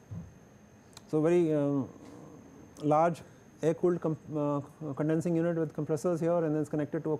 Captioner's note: air conditioning